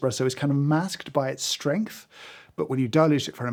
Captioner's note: none